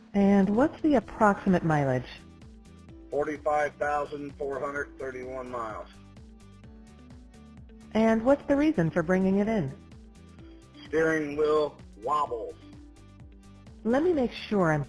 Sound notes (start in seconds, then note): 3.4 male Voice; 11.0 male Voice